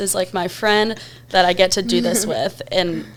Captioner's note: chuckles